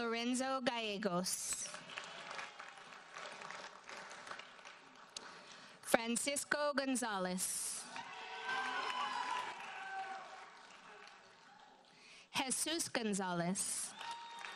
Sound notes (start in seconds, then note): 1.8 audience applauds; 7.9 audience cheers and applauds